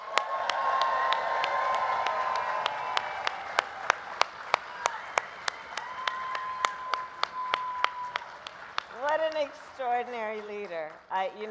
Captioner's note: applause